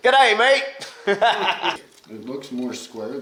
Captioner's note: laughing